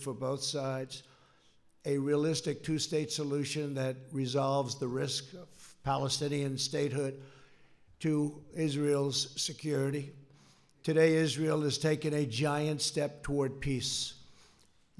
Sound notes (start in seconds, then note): none